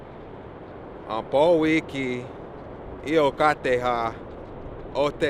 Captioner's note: speaks in Indigenous language